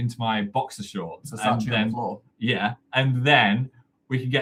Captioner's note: overlapping chatter